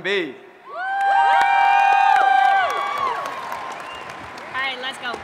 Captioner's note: applause and Cheering